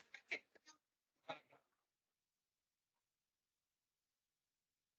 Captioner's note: attendees chattering